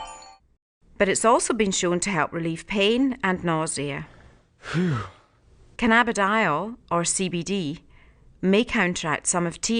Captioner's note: sound effect: sigh of relief